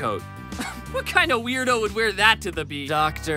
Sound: scoff

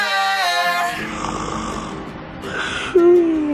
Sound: snoring

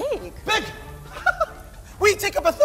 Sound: laughs

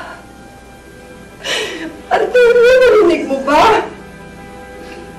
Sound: sobs

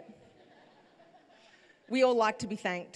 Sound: laughter

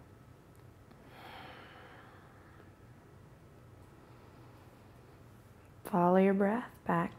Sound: slowly exhales and inhales

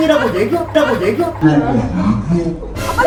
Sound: bursting into laughter until the end

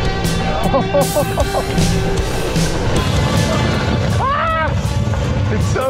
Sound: laughing

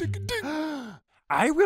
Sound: gasping

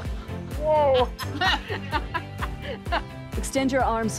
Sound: women laughing

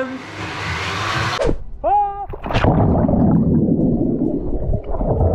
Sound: screams

